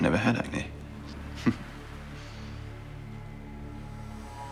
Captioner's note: chuckling